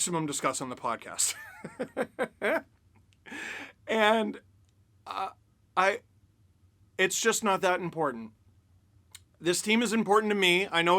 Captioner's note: laughter